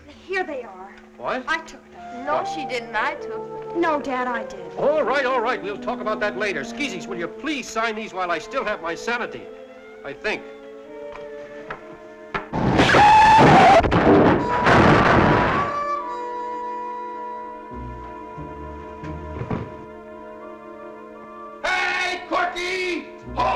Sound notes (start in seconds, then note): 12.6 tires screeching; 13.7 aggressive thudding